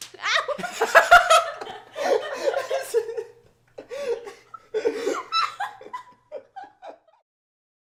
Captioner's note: both laughing